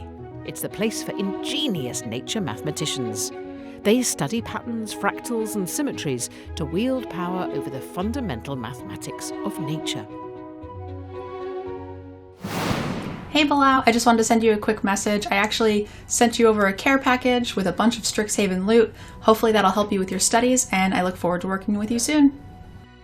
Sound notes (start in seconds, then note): 9.9 gentle upbeat music; 12.4 air whooshing